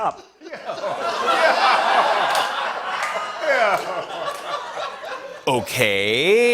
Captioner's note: laughter